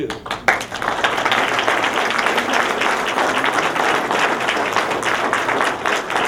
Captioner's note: applause